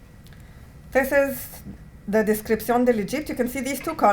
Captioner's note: non-english